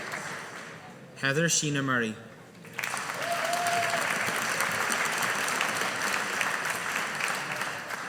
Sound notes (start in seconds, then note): 2.7 audience applauding